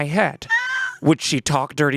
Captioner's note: squealing